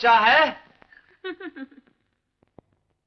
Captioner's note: laughs